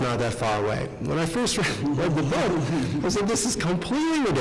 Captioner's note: laughing